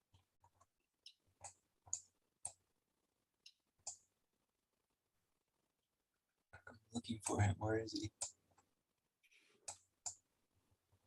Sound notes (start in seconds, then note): 1.8 mouse clicking